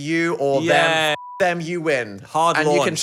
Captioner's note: beep